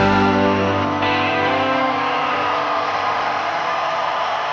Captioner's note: crowd cheers